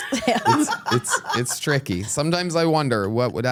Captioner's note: laugh